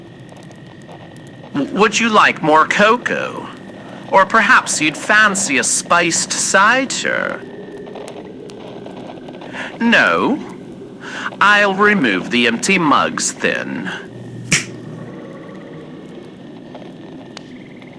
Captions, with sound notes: Would you like more cocoa? Or, perhaps you'd fancy a spiced cider? No? I'll remove the empty mugs, then. (snaps)